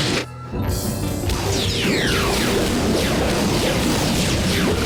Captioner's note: lasers firing